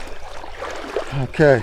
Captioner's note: water sloshing